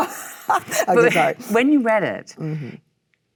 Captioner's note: Michelle laughs